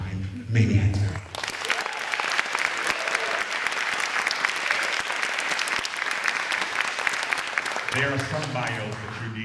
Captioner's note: applause and Cheers